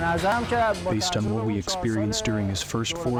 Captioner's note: through translator